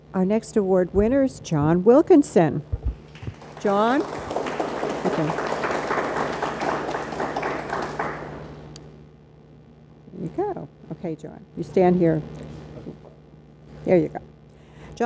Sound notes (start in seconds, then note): 3.0 audience applauds